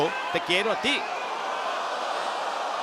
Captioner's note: applause